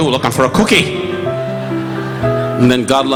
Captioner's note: audience laughing